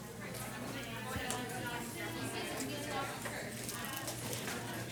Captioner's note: participants conversing